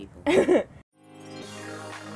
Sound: laughs; lively music

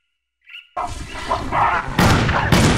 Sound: monkey commotion; pow, pow

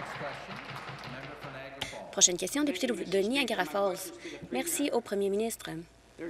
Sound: applause

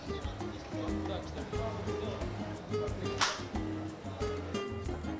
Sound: crowds chattering

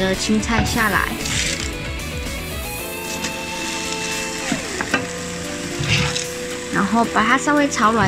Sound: the sound of vegetables coming out of the pot

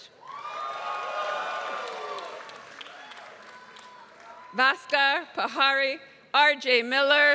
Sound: applause

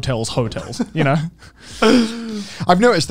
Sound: laughing

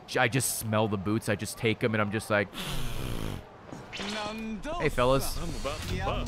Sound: sniffs

